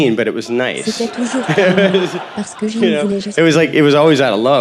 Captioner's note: crowd laughing